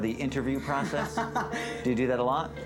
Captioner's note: laughs